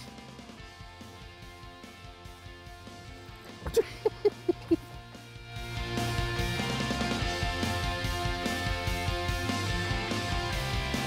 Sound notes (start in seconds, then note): 3.2 laughs; 6.1 upbeat music playing